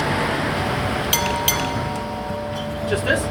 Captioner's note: doorbell